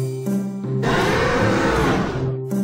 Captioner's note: roaring